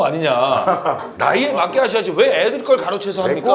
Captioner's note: haha